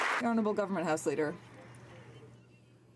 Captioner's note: some Applause